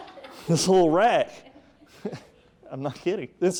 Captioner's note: audience laughing